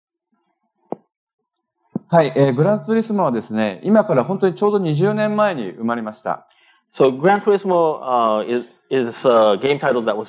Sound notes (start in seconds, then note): 4.4 speaking japanese